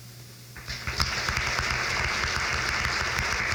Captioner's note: crowd claps